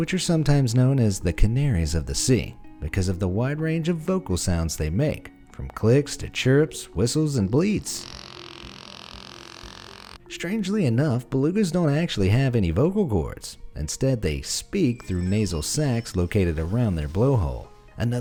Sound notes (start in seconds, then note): 7.9 gentle bleating